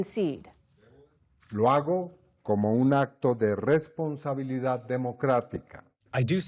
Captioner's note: through translator